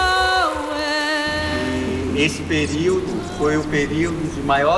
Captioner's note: non-english speech